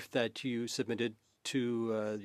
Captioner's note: speaking French